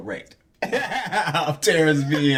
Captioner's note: laughing